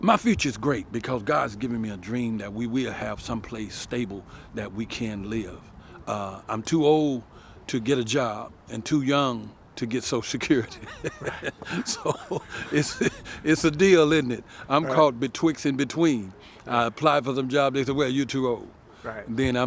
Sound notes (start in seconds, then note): 10.5 chuckling